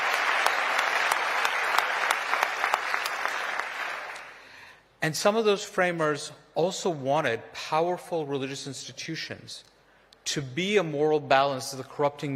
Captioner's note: applause